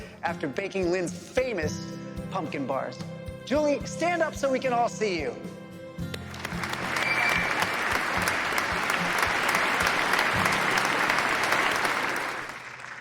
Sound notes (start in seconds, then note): 6.0 audience clapping